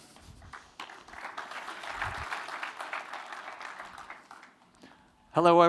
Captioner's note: applause